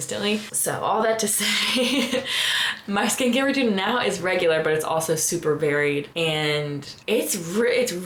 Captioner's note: laughter